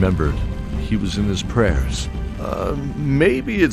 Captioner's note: none